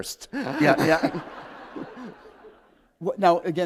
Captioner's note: laughter